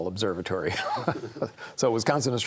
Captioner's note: chuckles